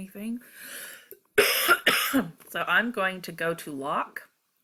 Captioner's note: cough